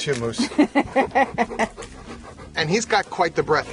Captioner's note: woman laughs